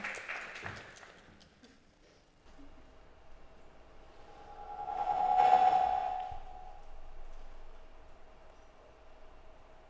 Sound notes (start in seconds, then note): 4.3 sound effects